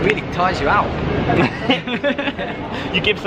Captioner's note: laughing